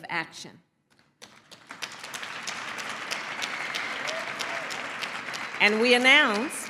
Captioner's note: applause